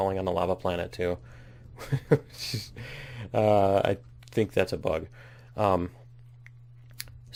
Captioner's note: laughs